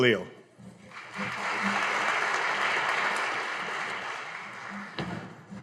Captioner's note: audience applauding